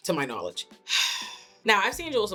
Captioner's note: sighs